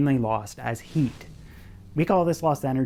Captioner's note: fire sizzles